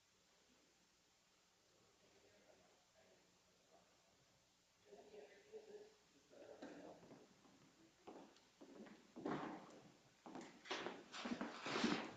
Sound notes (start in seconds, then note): 6.3 people murmuring; 8.6 footsteps clomping